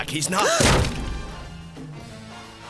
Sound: crash

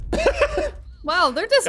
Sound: laughs

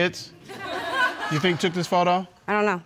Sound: audience laughing

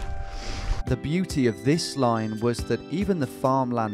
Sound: voiceover

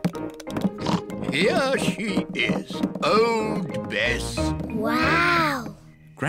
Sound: oinks

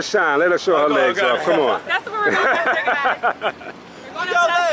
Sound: laughs

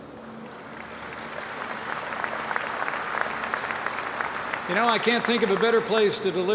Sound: applause

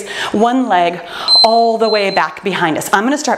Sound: timer beeps

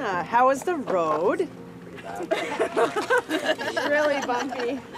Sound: laughter

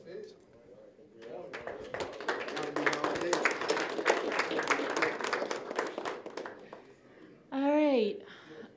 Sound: applause

